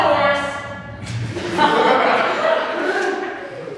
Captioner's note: audience laughs